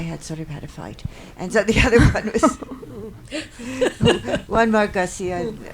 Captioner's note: laughs